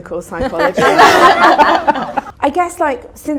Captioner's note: audience laughter